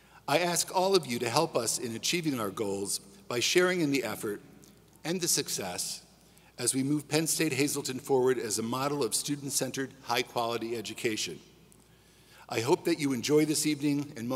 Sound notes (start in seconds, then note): none